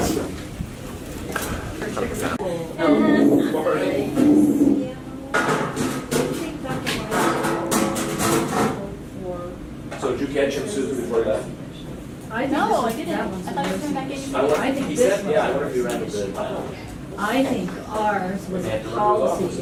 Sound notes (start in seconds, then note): 3.2 audience chatter